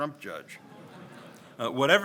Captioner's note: audience laughs